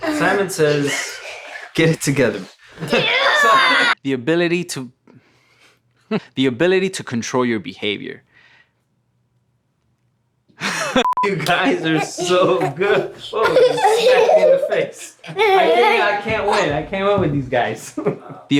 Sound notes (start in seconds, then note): 2.8 yells; 11.2 laughs